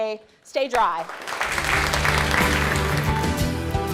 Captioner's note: participants applauding; uplifting instrumental music